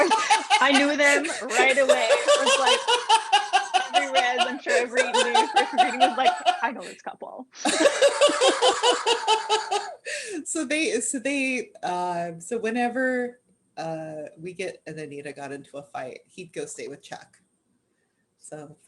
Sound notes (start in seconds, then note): 2.1 laughter